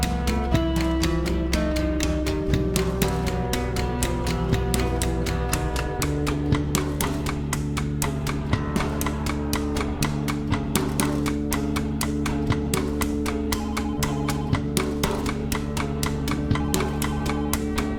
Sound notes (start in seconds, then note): 13.6 phone ringing